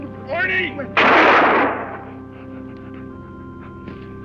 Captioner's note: gunshot